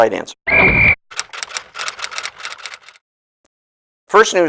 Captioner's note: SFX: Referee’s whistle. Typewriter